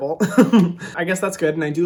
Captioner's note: laughing